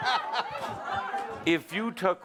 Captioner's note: laughter